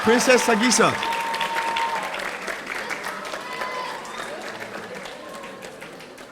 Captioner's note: audience cheering; audience applauding